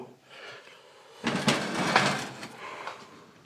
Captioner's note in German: Schabende Geräusche